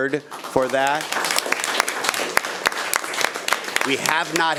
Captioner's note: audience applauding